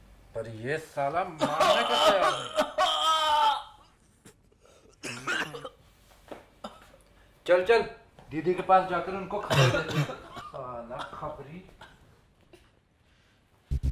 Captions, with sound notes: But this fucker isn't ready to listen. - (Groans in pain) (Coughs) Come, let's go to Didi quickly and tell her about him. Fucking informant.